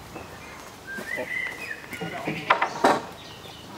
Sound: birdsong

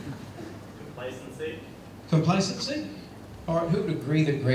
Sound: laughter

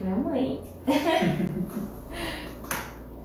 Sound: laughter

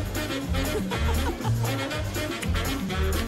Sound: lady chuckles

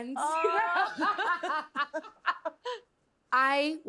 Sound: both laughing

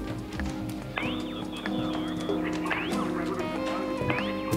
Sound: cat paws padding

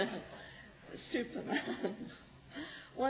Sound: laughs

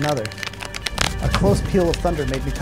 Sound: cards shuffling

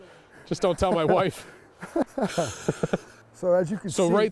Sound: the guys laugh

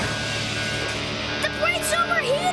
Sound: error alarm blares

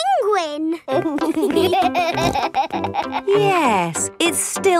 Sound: laughing

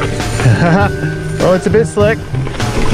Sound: laughing

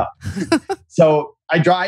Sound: laughs

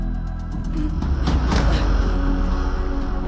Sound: grunts

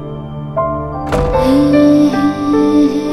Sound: door closes

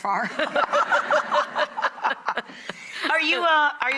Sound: laughter

